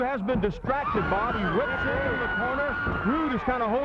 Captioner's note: blows thudding